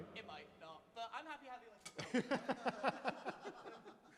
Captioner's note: tosses his sticks, others laugh